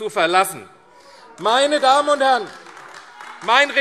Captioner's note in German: Beifall AfD - Anhaltende Zurufe